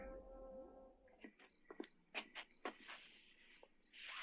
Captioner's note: crickets chirping